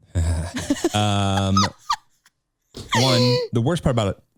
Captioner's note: laughing